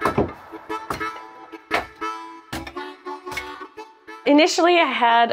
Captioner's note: sound of wood being chopped